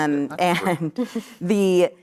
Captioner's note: laughs